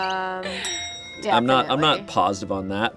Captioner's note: bell clicking sound